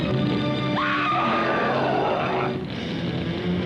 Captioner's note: Bill groans; Jan screams; flames crackle; suspenseful music